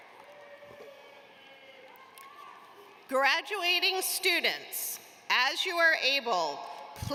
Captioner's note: applause